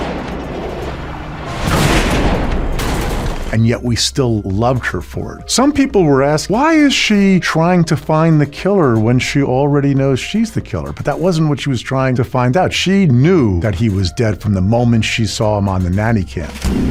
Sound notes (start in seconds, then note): 0.0 missile whirs; 2.1 explosion whooshes